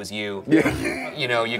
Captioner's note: laughs